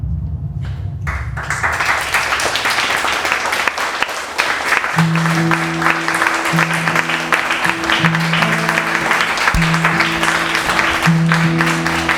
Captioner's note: applause; cheering